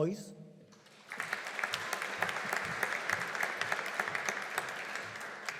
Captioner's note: audience applauding